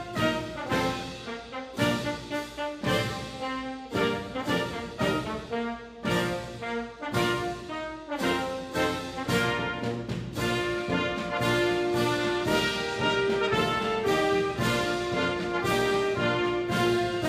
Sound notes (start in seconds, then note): none